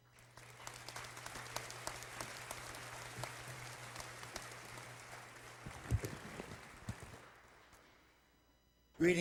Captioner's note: applause